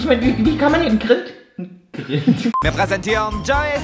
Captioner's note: laughs